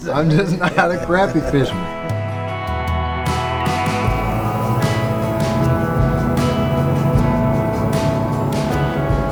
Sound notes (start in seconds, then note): 2.6 soft country music; 3.6 boat rumbling